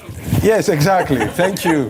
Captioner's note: laughter